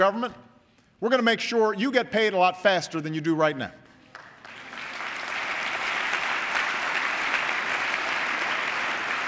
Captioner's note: applause